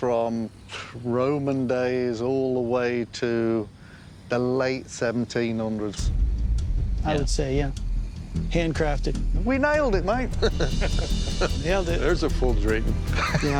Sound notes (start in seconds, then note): 0.6 exhales; 10.4 laughter